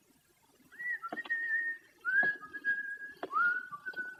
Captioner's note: continues whistling